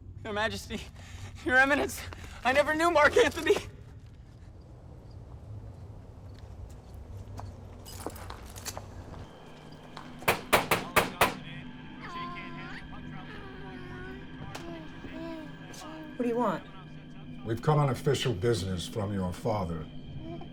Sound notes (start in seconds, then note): 10.2 knocking; 12.2 baby cooing